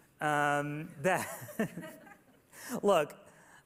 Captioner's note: laughter